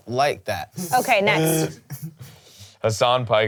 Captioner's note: laughs